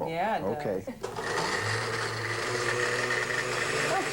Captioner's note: blender whirring